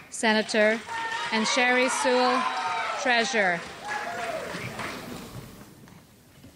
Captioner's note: crowd cheering